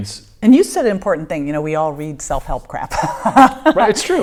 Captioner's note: laughing